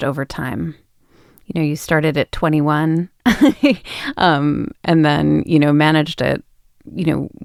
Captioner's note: laughs